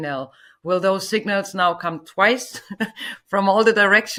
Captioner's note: laughs